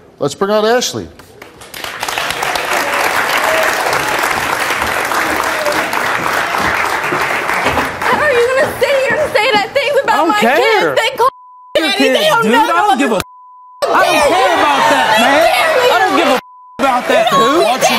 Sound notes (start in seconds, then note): 1.3 applause